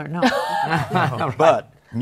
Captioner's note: laughter